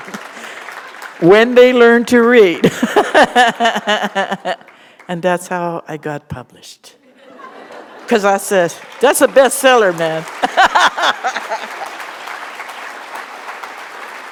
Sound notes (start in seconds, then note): 2.6 laughter; 7.0 laughter; 12.6 laughter